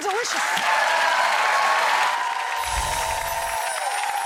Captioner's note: audience cheering